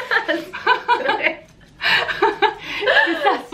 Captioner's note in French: rires